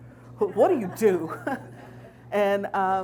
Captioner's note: chuckles